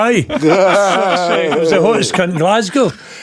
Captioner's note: laughing